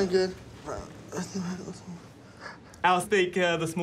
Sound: grunts, murmurs

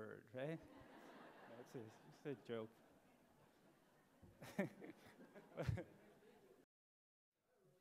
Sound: laughter

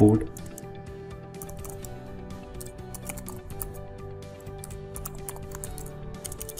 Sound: typing code

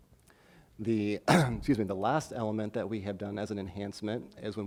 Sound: coughs

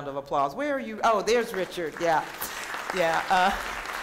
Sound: applause

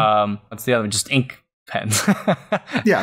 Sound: laughter

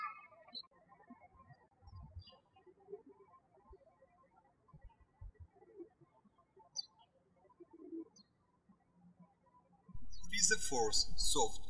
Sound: birds chirping

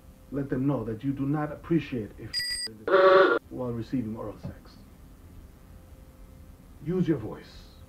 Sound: cartoon sounds

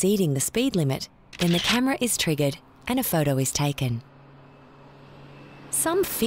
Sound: camera clicks

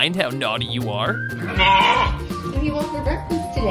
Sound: bleating

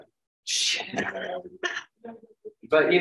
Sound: laughs

